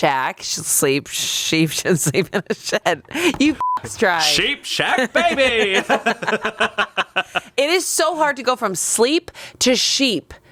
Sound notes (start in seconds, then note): 3.6 beep; 4.8 everyone laughs